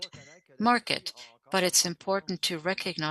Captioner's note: speaking French